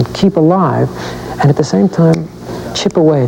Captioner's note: clicks fingers